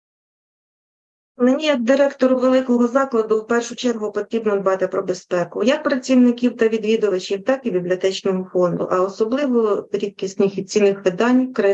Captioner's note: foreign Language Spoken